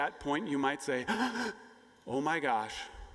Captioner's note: gasping